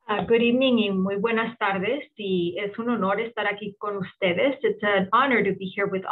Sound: speaking in foreign language

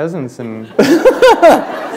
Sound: laughter

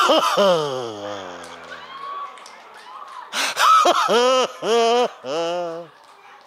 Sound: audience laughs

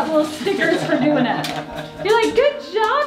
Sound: laughs

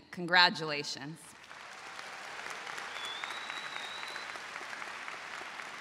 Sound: crowd applauding

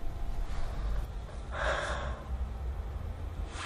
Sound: deep breathing

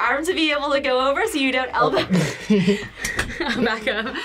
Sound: laughs

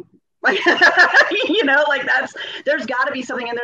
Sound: laughing

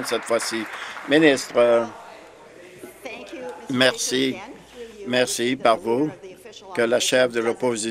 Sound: applause

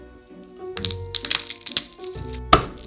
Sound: garlic paper rustling; knife smashing

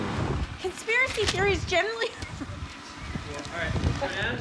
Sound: laughs

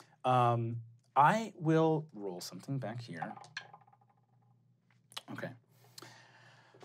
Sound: rolling dice

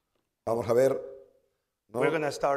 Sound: speaking spanish

